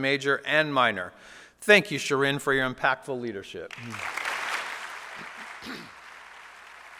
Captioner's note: applause